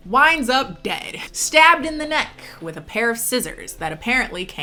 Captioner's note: none